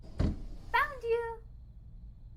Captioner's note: door clatters